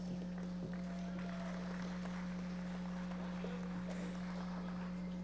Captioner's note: audience applauding